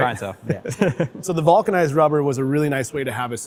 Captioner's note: laughs